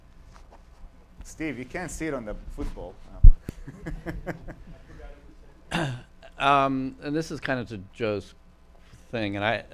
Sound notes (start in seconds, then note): 3.6 laughs